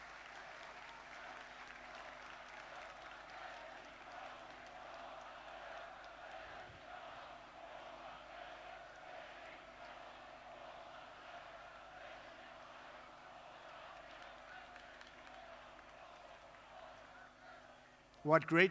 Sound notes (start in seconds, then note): 0.0 applause; 5.3 chanting